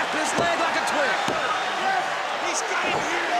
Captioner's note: crowd chatter